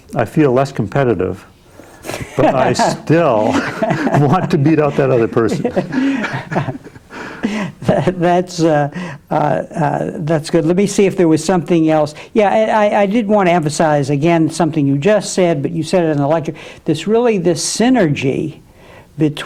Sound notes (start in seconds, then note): 5.6 both laughing